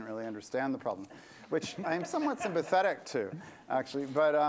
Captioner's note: laughter